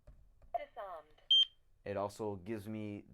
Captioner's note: alarm beep